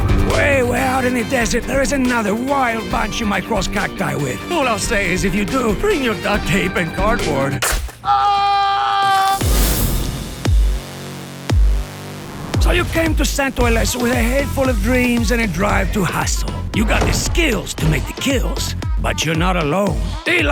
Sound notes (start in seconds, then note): 0.0 scoffs; 7.6 gunshot cracks; 8.0 man screaming; 9.8 intense music